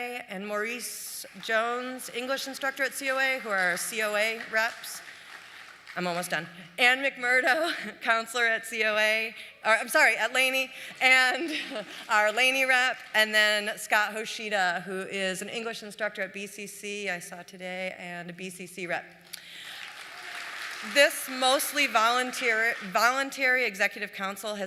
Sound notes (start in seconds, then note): 19.4 applause